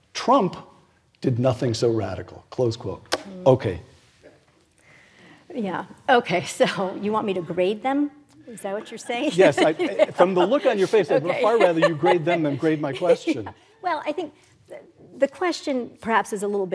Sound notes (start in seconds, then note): 8.7 laugh